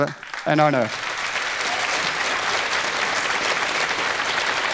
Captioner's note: applauding